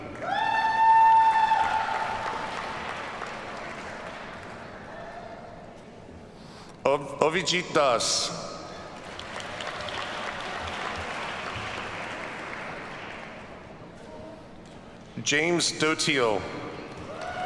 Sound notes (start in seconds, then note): 0.0 audience cheers and applauds; 8.8 audience applauds